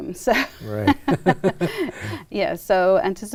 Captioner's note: laughter